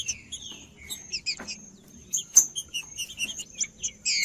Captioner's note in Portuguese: trinca ferro cantando